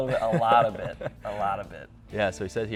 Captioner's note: laughs loudly